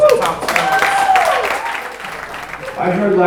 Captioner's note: audience applauding